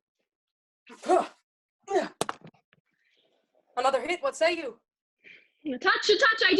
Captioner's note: grunting painfully